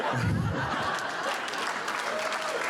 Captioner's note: audience laughter; applause